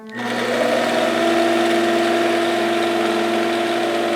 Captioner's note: machine whirring